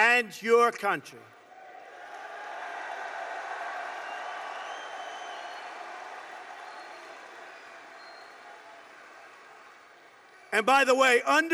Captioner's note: applause